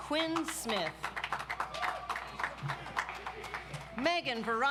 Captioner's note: audience applauds